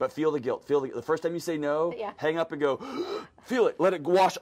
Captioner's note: loud inhale